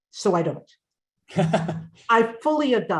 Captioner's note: chuckles